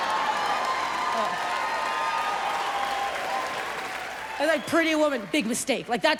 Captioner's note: audience cheers and laughs